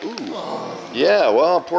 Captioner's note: groans